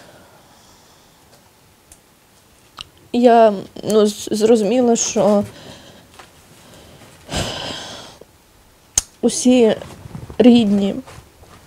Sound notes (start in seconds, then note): 6.7 sighs